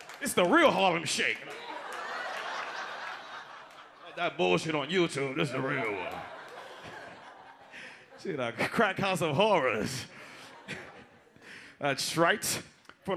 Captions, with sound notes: It's the real Harlem Shake. (audience laughs) Fuck that bullshit on YouTube. This is the real one. (audience laughs) See the crackhouse of horrors. That's right.